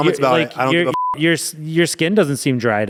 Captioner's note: beep